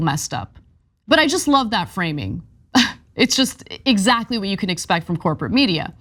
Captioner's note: laugh